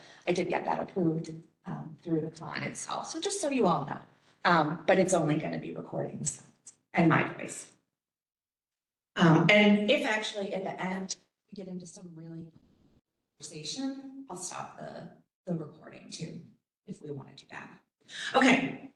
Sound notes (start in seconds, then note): 12.9 audio cut